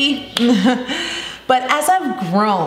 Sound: laughs

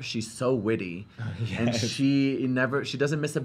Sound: laughs

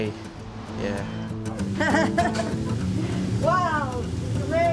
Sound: laughs

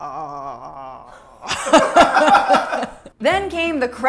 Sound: laughter in background

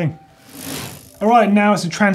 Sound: bike wheel whirring

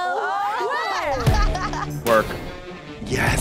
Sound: all exclaim; upbeat music

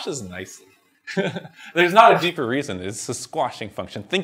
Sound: chuckles

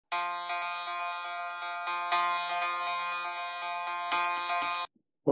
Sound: boiler alarm

